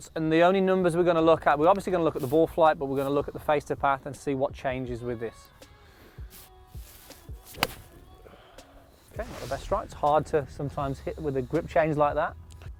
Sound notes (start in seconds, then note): 7.2 club strikes